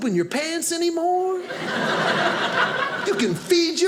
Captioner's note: audience laughing